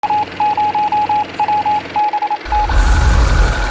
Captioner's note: morse code beeping